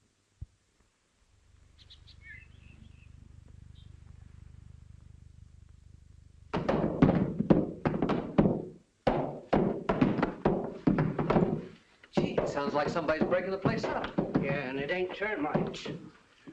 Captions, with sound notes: [ BIRDS CHIRPING ] [ BANGING, CLATTERING ] Sounds like somebody's breaking the place up. Yeah, and it ain't termites.